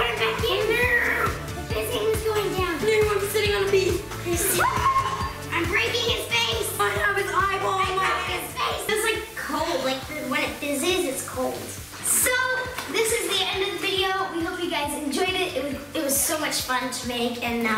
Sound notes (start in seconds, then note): 4.6 yells